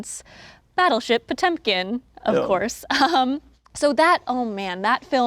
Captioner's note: chuckles